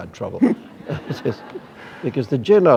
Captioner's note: laughter